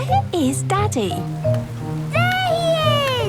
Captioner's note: children laughing